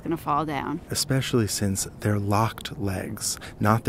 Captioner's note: voiceover